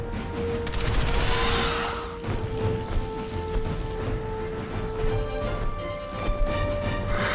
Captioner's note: turret fires; creature screeches